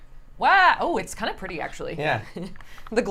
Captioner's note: laughs